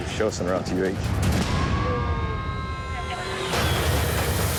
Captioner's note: sirens